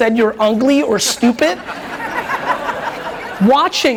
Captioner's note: audience laughs